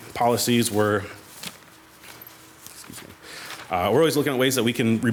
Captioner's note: papers shuffling